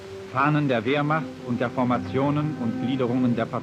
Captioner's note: speaking German